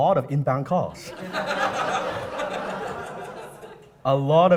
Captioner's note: audience laughs